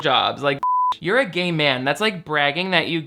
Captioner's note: beep